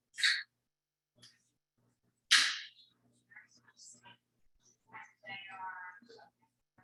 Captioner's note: people chattering indistinctly continues